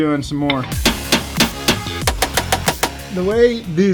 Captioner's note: hammer pounding